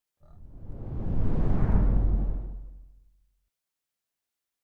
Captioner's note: screen whooshing